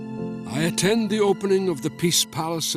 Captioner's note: Voz en off